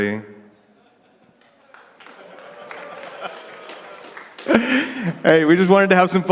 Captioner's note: audience applauding